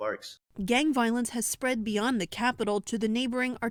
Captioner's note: voice-over